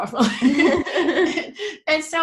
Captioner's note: they laugh